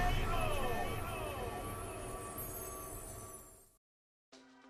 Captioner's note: voice echoing